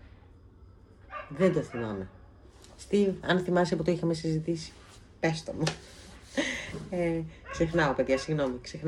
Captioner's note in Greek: γέλια